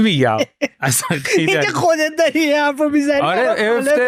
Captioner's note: laughs